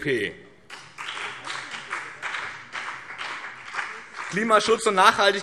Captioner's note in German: Beifall BÜNDNIS 90/DIE GRÜNEN